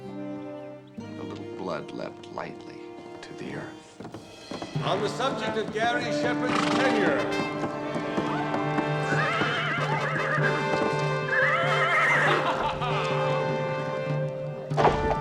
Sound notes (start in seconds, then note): 8.0 loud neighing; 11.7 laughs